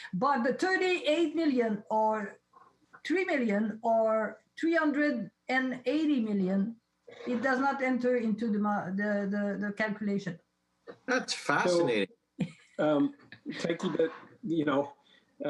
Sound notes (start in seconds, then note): 13.4 laughs